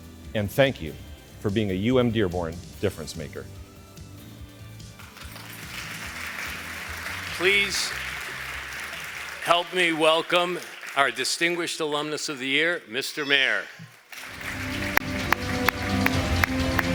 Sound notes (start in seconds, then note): 4.8 applause; 16.7 applause